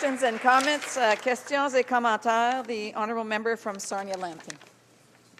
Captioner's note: some applause